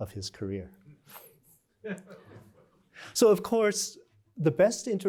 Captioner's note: laughter